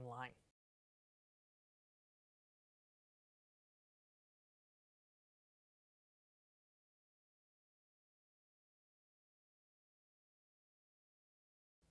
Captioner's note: no Sound Present